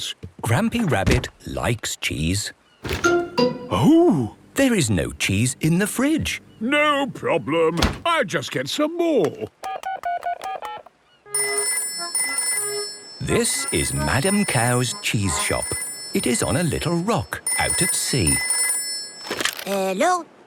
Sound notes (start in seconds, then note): 9.4 dial tone; 11.2 phone rings